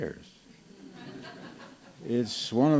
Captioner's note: laughter